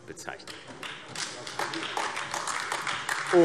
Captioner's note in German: Beifall AfD